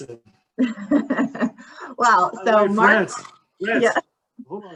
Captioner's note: laughs